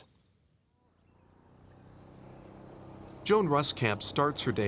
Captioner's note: engine running